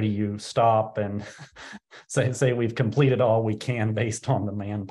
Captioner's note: laughs